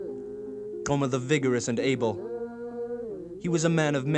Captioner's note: non-english speech